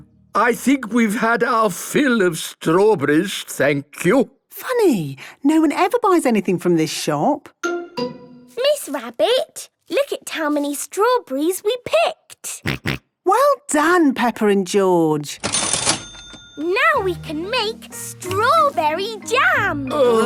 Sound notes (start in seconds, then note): 15.4 till rings